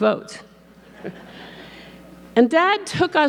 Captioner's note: audience laughing